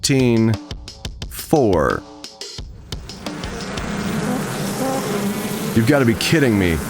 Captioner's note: buzzing